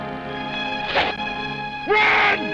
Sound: arrows whooshing

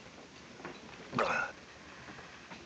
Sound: gulps

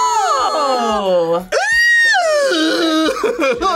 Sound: chicken squeals; screams; laughs

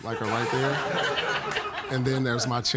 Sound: laughter

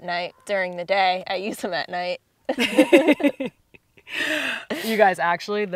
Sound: laughing

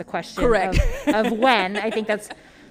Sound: laughs

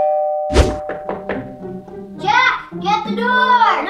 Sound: door bell ring; knock thudding

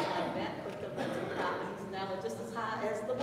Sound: speech drowned by coughing

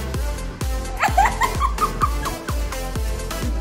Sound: laughs

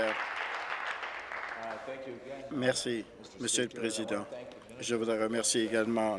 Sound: applause

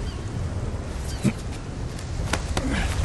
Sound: Jack grunts

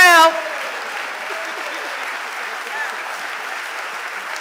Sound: audience applauding

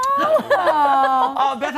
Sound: laughter

